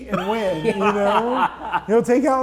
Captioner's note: laughing